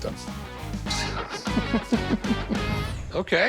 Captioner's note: giggles